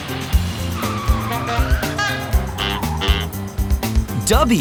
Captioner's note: screeching